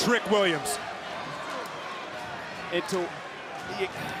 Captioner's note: crowd shout